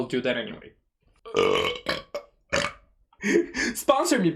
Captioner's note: loud and long burp